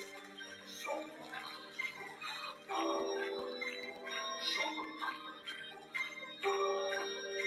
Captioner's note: audience cheering; slow music; men vocalizing